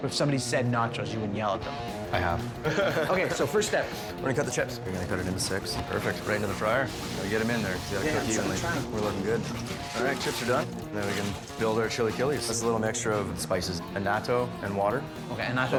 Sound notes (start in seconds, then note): 2.6 laughs; 10.1 upbeat rock music